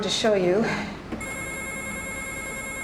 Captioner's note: telephone ringing